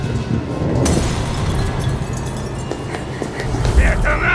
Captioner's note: bulb clatters